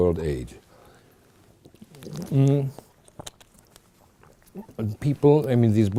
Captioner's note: sips water